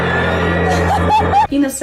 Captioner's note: dog's laugh